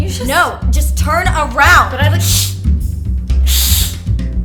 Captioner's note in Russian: шипит как кошка